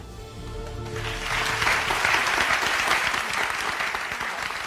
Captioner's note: audience applauding